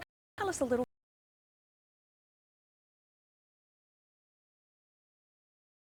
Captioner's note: technical interference